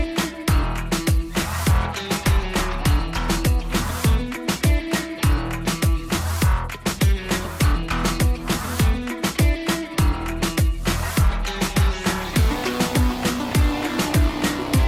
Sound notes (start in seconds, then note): none